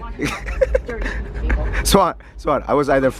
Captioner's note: laughter